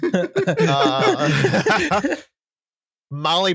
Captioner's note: laughter